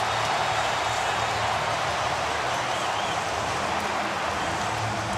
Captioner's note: cheering